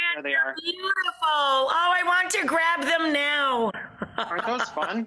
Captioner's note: laughing